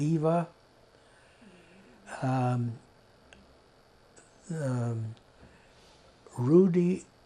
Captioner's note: pauses 6 seconds